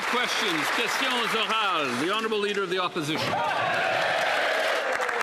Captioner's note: some Applause